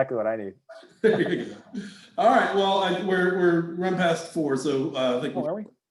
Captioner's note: laughs